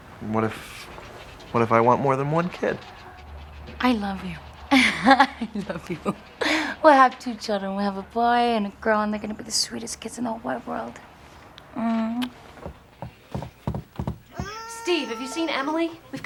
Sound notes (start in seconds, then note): 12.3 footsteps tapping